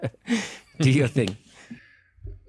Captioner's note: laugh